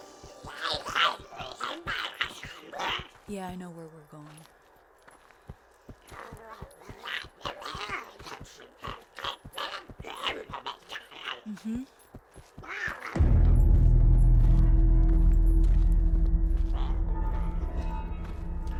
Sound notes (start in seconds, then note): 0.4 Giree grumbling; 6.2 Giree grumbling; 13.1 tense music